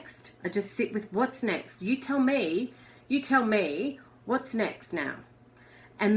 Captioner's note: none